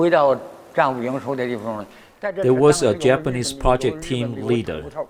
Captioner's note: speaking foreign language